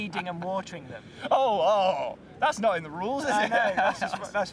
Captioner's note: laughing